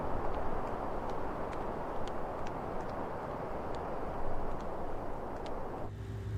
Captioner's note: footsteps tapping continues